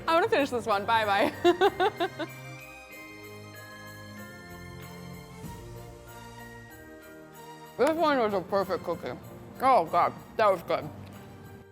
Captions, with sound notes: I wanna finish this one, bye bye. (laughs) (festive music) This one is the perfect cookie, oh God, that was good.